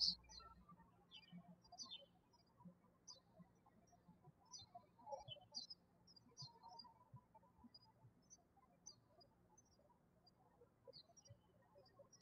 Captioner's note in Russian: птички щебечут